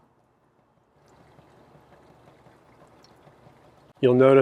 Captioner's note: water sloshing